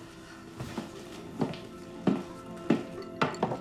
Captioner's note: peaceful music continues; footsteps tapping; glass thuds